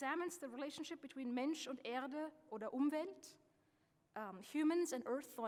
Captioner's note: speaking German